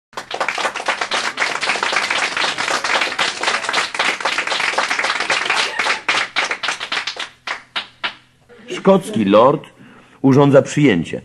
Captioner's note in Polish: Aplauz